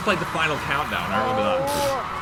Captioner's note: audience cheering